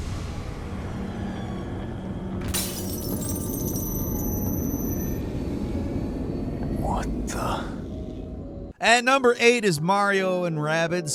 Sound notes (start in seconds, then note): 0.1 tense music; 2.5 glass shattering